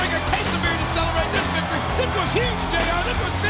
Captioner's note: audience cheers